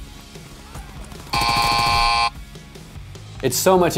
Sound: buzzer

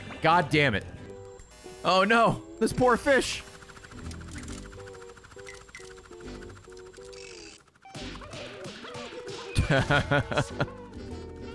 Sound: laughs

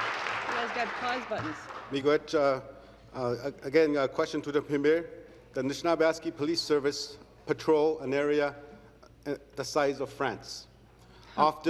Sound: some Applause

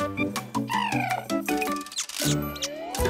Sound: coos; chirping

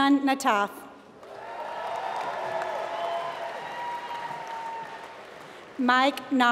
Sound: applause

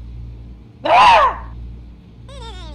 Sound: scream

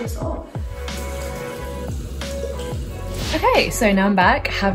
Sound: water running

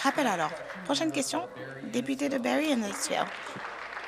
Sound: applause

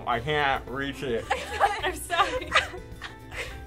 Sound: laughter

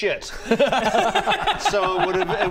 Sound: laughs in agreement

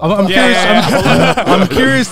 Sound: all laughing

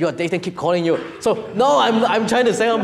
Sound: audience laughing

